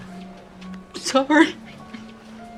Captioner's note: crying